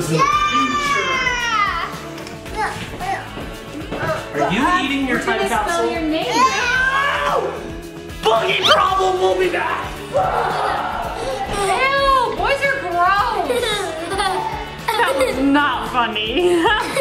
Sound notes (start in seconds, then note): 6.5 screams; 14.3 kids laugh; 16.5 laughs